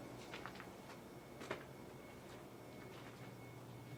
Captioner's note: shoes padding